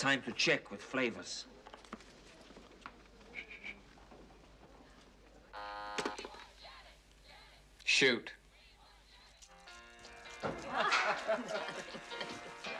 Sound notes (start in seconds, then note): 5.6 Звонит телефон; 10.6 Хихикает